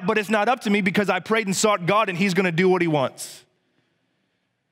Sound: none

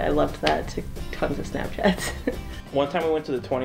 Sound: laughs

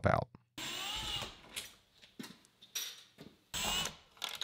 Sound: drill whirring

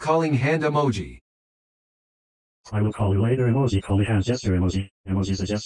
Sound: voiceover speaking

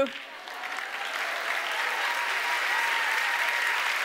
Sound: audience applauds

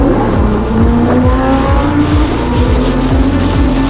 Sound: engine roaring

